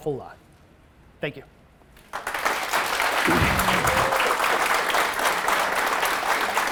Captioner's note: audience applauds